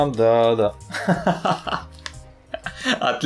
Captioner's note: laughing